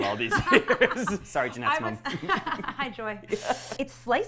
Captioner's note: laughs